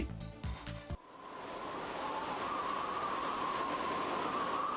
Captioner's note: air whooshing